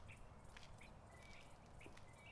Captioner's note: birds chirping